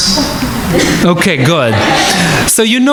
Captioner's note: audience laughing